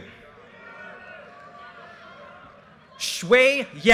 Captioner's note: audience cheers and applause